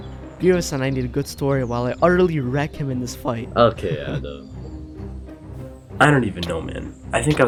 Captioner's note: chuckles